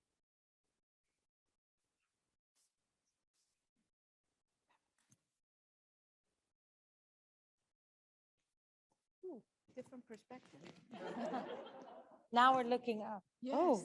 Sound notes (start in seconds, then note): 10.9 audience chuckles